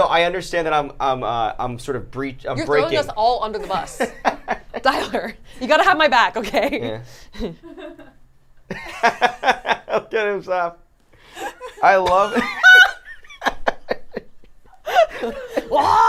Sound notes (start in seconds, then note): 4.5 laughs; 7.7 laughs; 12.2 laughs